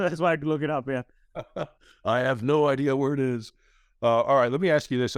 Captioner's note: laughs